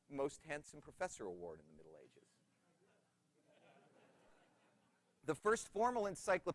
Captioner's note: laughter